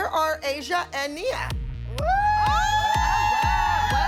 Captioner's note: cheering